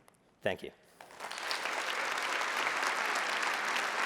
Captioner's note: applause